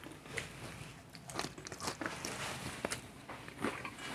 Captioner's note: chewing